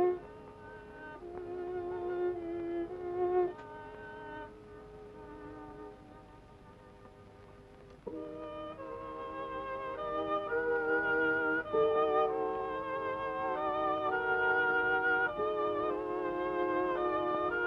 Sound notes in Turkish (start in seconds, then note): none